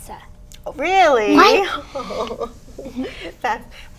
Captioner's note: laughs